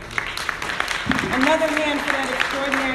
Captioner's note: audience applauding